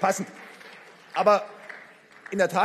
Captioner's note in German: Beifall